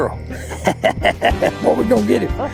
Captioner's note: laughs